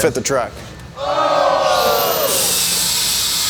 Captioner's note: crowd